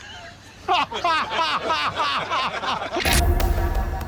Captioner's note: everyone laughs